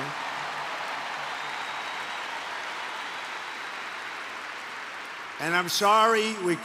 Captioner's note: applause